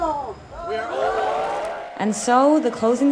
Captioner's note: crowd